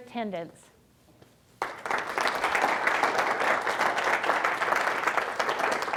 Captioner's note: applause